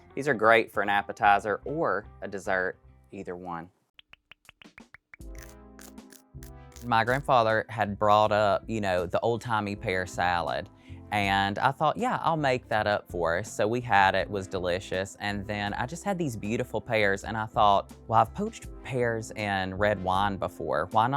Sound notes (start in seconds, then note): 4.0 graphics popping; 4.0 bright music